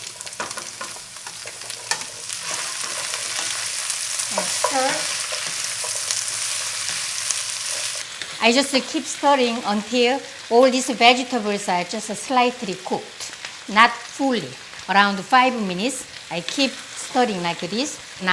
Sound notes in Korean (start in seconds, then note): 5.7 지지직 볶는 소리